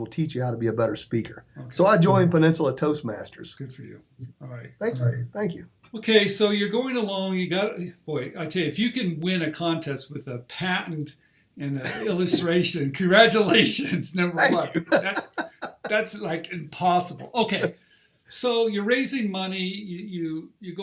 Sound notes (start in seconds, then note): 13.3 laughing